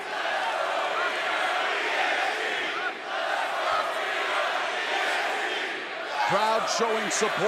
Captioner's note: crowd cheering